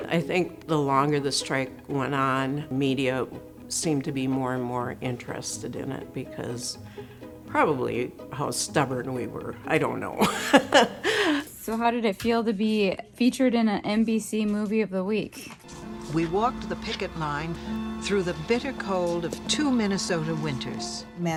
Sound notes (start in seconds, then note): 9.8 laughs; 16.2 voiceover